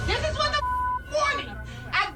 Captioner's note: beep